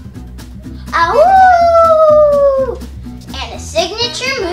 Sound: howls

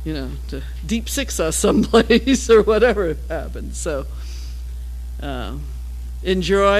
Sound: laugh

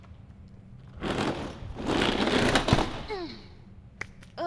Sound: door slams shut

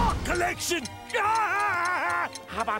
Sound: laughing

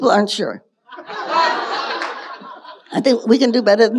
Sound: audience laughing

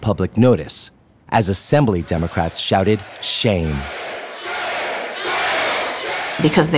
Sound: crowd chanting

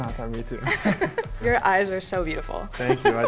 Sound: both laugh

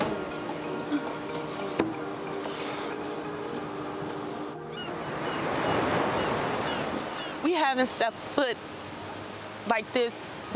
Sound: seagulls crying

